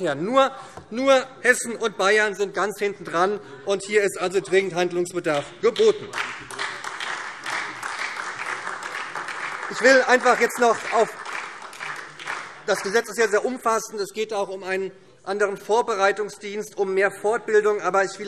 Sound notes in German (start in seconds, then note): 7.3 Beifall SPD